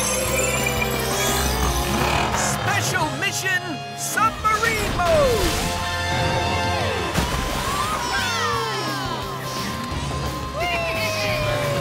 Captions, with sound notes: Special mission submarine mode! [cheering] Wee!